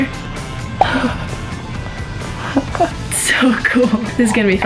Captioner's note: laughs